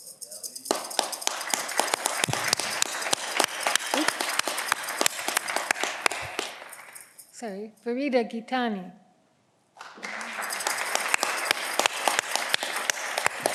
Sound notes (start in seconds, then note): 0.4 audience clapping; 9.7 audience clapping